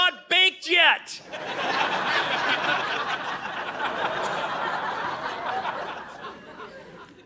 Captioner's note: audience laughing